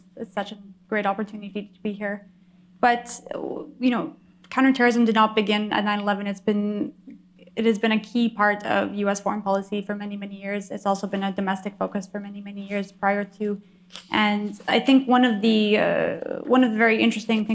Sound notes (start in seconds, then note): none